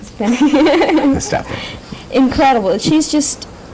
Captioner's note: laughter; laughs